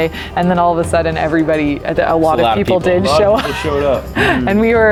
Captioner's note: laughs